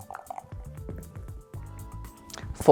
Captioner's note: dice rattling; dice rolling